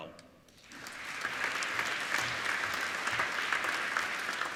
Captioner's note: applauding